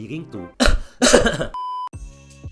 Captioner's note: coughing